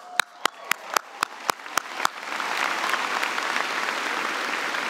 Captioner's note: cheers and applause